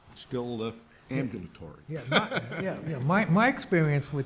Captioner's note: laughs